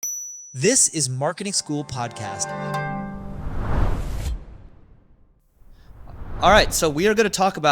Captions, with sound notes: (bell dings) - This is "Marketing School Podcast." (bright music) (screen whooshes) All right, so we are going to talk